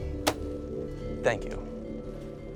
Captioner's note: hand thwacking on counter